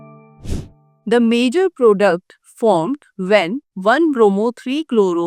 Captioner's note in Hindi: नाक से की जाने वाली आवाज़